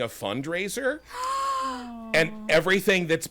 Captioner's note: gasping